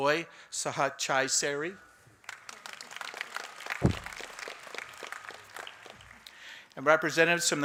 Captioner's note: applause